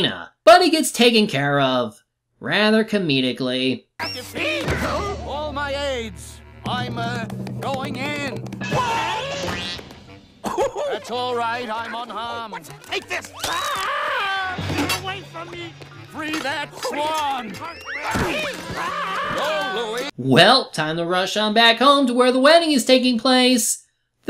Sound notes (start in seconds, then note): 8.6 con artist yelps; 14.1 con artist yells